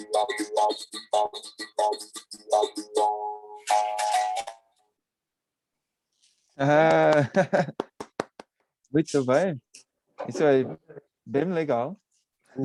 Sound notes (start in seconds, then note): 6.8 applause